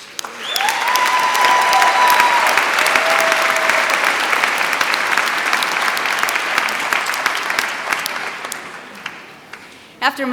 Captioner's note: applause